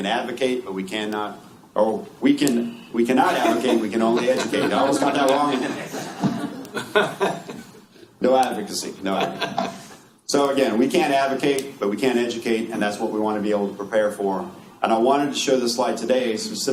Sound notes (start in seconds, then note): 3.2 laughter